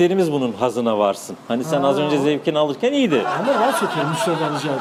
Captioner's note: laughs